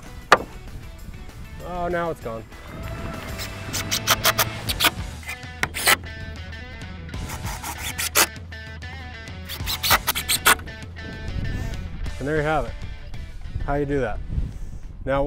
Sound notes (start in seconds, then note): 2.8 applause; 4.3 drill whirring